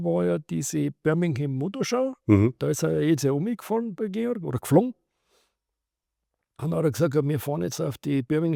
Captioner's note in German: schnauben